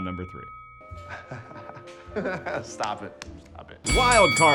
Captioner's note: laughing